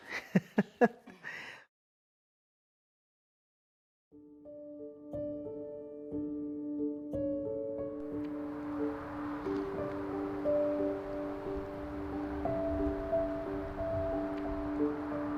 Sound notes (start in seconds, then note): 0.0 laughs; 4.5 soft music; 8.0 wind whooshing; 8.1 soft music